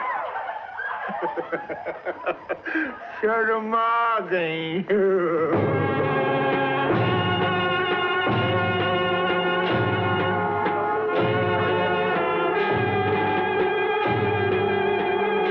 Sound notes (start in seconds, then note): 0.0 laughing; 11.2 drums Playing